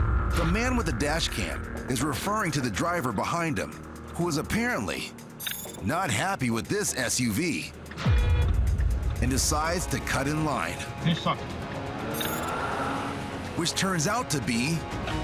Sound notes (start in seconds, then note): 8.0 horn honks